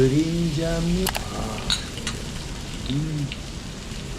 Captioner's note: thin-sliced pork belly sizzling to perfection